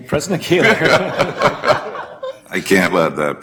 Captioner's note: laughter